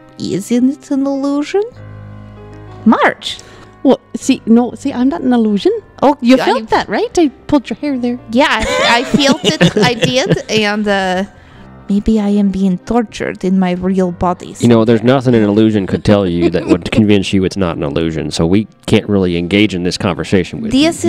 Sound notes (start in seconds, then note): 8.6 laughs; 10.5 laugh